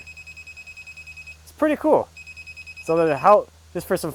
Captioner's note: machine beeping